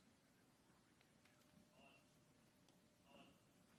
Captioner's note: cadence whistle